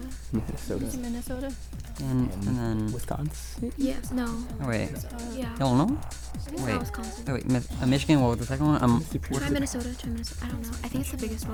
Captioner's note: whispering